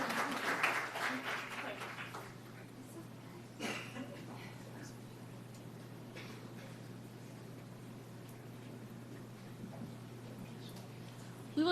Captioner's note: applause